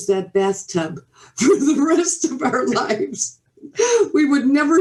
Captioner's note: chuckles